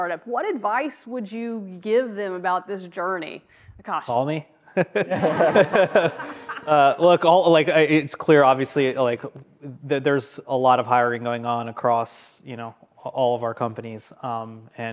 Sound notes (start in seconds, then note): 4.7 group laughs